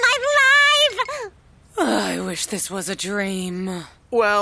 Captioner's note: Sighing